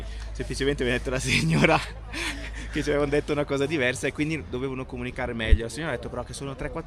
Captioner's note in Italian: risate